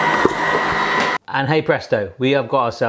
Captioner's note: blender whirring